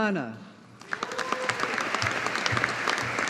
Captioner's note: audience applauding